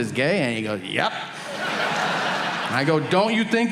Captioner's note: audience laughing